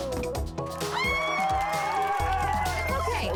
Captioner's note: celebratory screaming